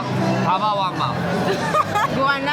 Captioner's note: cracks up